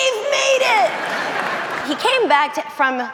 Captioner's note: audience laughing